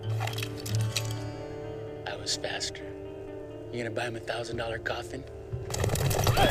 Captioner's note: whinnying